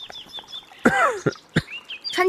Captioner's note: coughs